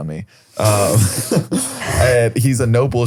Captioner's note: group laughs